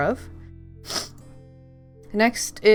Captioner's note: sniffle